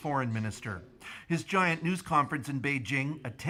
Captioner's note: speaking alternate language